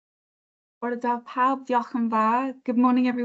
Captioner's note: speaks in foreign language